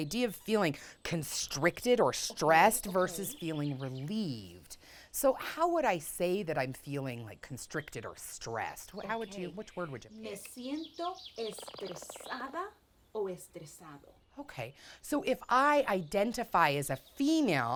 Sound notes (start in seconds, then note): none